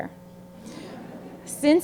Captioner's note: audience chuckling